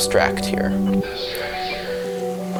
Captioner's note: distorted echo "abstract here"